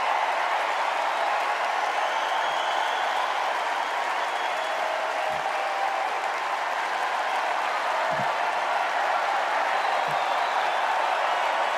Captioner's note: cheers and applause